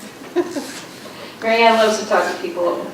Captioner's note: laughs